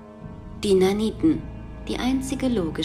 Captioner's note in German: none